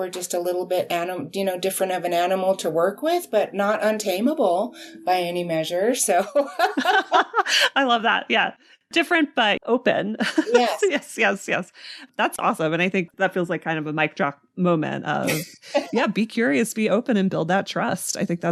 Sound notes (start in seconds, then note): 6.3 laughing